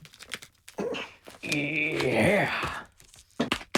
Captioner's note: grunts